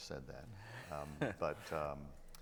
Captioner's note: chuckles